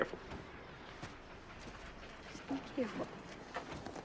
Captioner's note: mocking